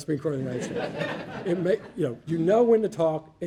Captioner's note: audience laughing